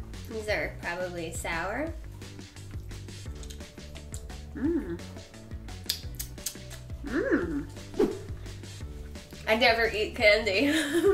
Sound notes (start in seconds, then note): 2.6 chews; 5.9 smacks lips; 10.7 laughs